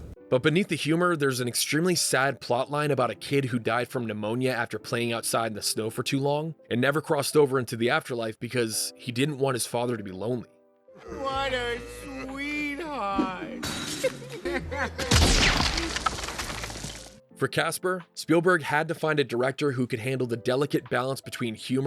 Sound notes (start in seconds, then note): 15.5 crying